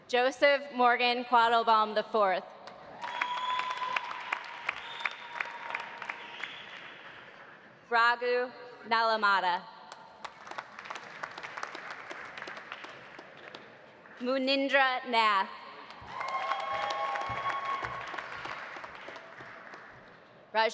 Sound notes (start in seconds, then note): 3.0 audience applauding; 3.0 audience cheering; 10.2 audience applauding; 15.9 audience applauding; 16.0 audience cheering